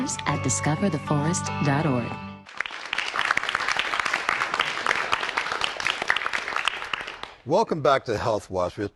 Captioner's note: applause